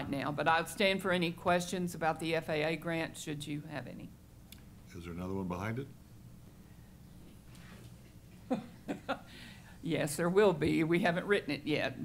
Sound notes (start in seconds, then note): 8.4 chuckles